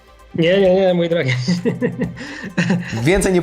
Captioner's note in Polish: śmiech